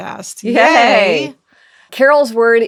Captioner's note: both cheer